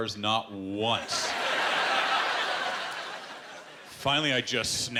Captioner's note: laughter